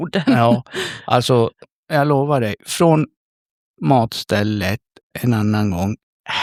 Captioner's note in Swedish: skratt